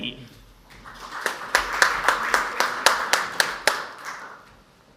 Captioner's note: audience applauds